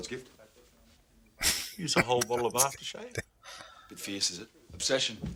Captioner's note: chuckling